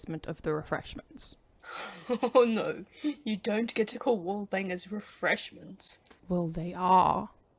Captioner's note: chuckles